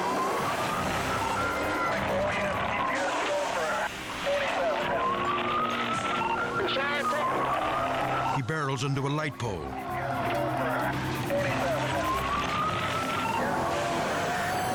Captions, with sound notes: (car crashes) (police radio chatters) He barrels into a light pole. (car crashes)